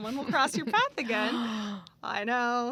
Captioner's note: gasps